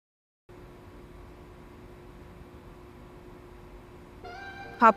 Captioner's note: mechanical whirring